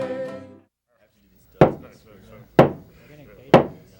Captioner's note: gavel pounds